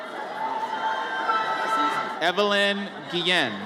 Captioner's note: audience cheers